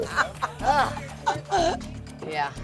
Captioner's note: laughs